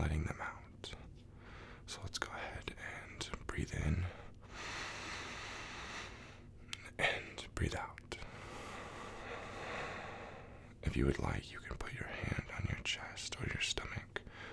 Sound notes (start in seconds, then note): 4.4 inhale deeply; 8.3 exhale deeply